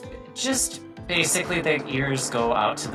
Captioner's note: plane whirring